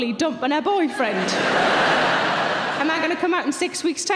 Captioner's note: audience laughing